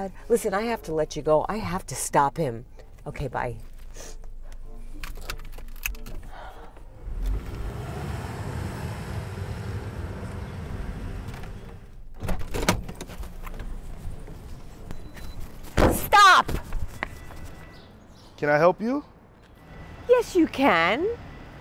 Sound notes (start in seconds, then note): 6.6 car approaching; 12.1 woman opens door and bangs it